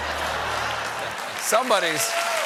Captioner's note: applause